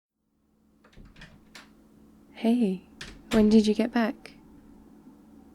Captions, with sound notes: *door opens and closes* hey, when did you get back?